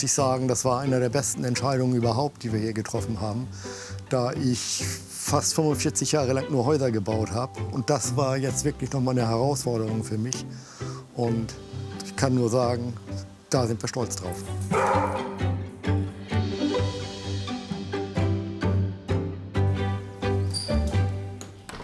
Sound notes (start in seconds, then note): 14.6 barking